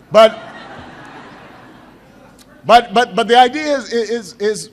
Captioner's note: laughter